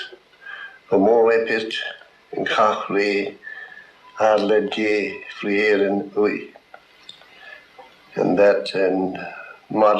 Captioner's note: speaking gaelic